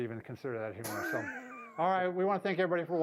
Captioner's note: laughs